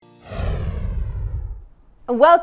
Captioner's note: logo whooshing